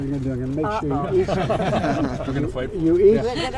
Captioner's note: laughter